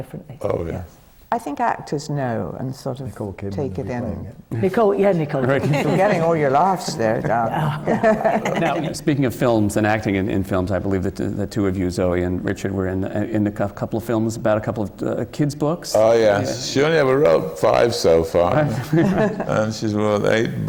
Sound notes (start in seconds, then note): 7.2 laughter from the panel; 7.6 laughter